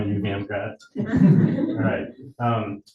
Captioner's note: audience laughing